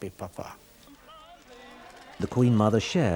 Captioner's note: people chattering